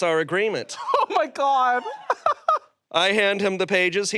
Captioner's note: laughs